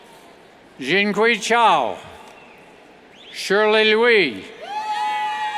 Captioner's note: cheers